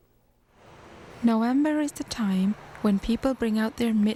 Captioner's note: voiceover